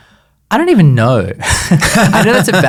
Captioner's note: laughs